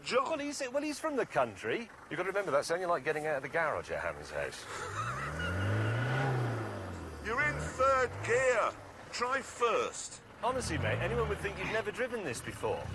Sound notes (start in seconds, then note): 4.2 engine revs; 4.6 jeremy chuckles